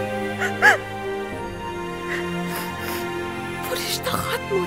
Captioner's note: Crying